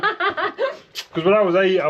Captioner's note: laughs